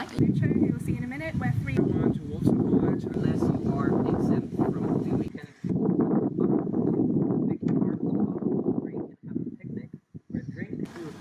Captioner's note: wind blows